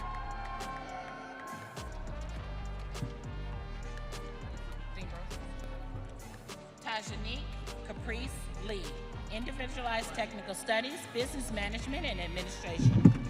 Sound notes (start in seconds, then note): 1.6 audience cheering